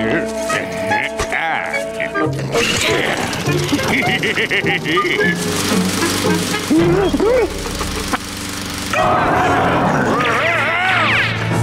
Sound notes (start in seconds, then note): 0.2 grunting; 3.5 laughing; 6.4 groaning; 8.9 roaring; 8.9 screaming